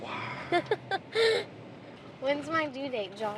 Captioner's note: laughing